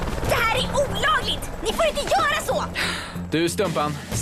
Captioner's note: gasps